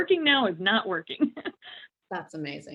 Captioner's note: laughing